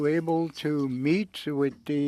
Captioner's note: speaking French